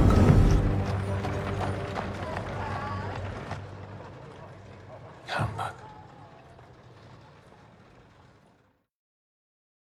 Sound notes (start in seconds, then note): 0.0 door closes